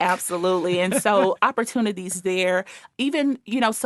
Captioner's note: laughing